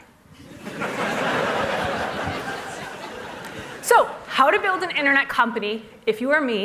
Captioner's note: laughter